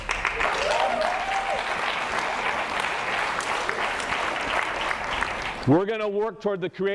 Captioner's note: applause